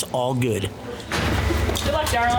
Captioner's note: door closing